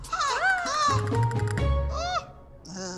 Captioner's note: panting; gasps; groans